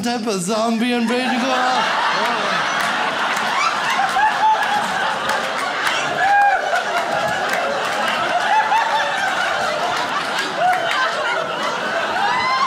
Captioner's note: audience laughs